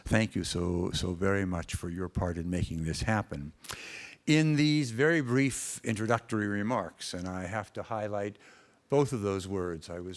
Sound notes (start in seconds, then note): none